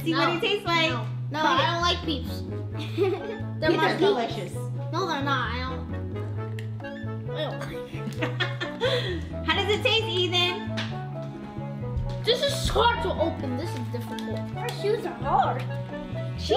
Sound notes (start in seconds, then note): 2.8 giggling; 7.6 mom laughing